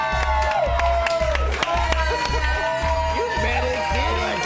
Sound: cheers

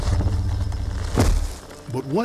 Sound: ground rumbles

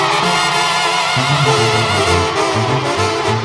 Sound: gritos y aplausos

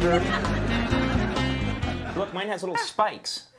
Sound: audience laughing

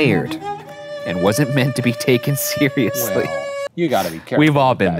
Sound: laughs

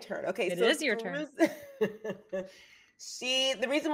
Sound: laughing

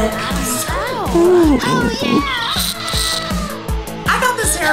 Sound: moaning

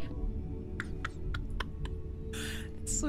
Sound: quiet Laughter

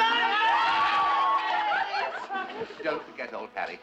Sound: laughter and cheering

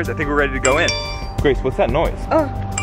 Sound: phone noise

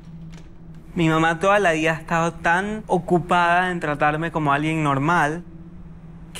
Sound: speaking in foreign language

